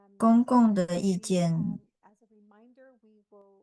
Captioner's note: interpreter 2 talking in a foreign language